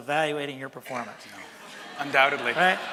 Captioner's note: laughter from audience